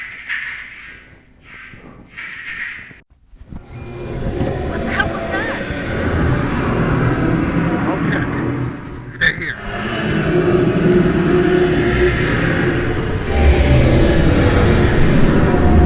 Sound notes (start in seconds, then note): 4.6 creature roar